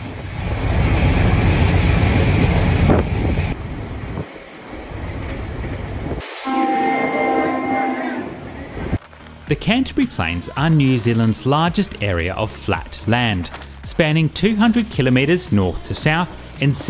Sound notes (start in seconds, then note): 0.3 train engine roaring; 3.5 train horn blowing